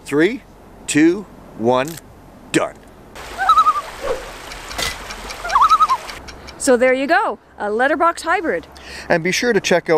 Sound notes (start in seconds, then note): 3.2 loon call